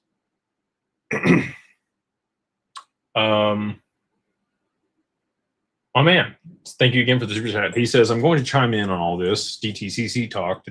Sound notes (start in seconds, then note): 1.1 clears throat